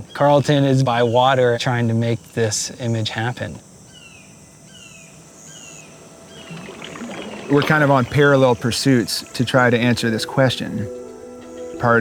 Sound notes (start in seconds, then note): 3.7 bird cawing; 4.1 insects buzzing; 7.0 water swishing